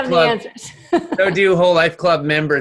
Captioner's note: laughs